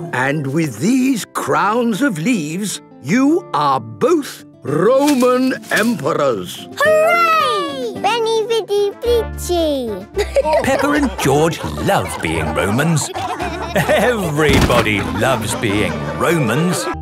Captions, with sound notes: - And with these crowns of leaves, you are both Roman emperors. - Hooray! Veni, vidi, vici! (all laughing) - Peppa and George love being Romans. - Everybody loves being Romans.